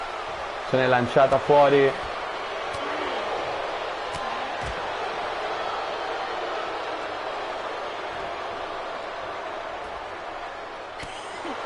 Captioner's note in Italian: Applauso